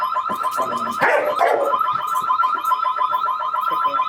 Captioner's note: barking